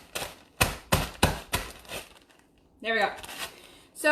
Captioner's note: banging